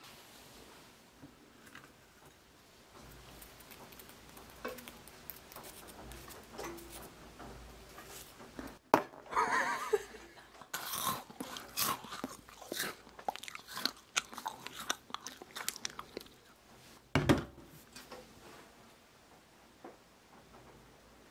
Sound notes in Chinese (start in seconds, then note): 9.3 笑暈